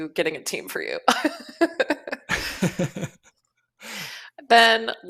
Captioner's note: laughter